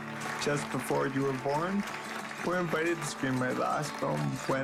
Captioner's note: clapping